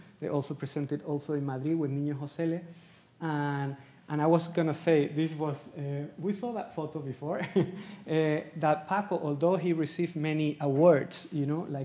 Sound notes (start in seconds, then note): 8.0 laughs